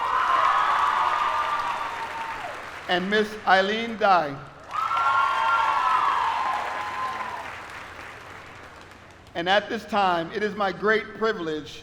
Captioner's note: applause